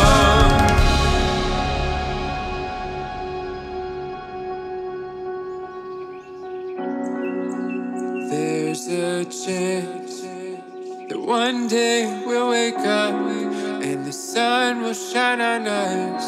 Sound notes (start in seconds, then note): 0.0 drums crash; 0.1 instrumental softens; 6.5 birds chip